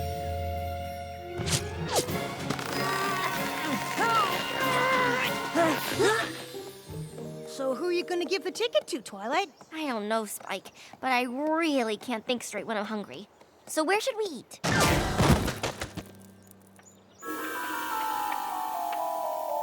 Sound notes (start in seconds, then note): 1.4 zip! zip!; 2.2 both grunting; 14.6 thud!